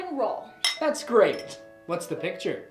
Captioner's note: glasses clinking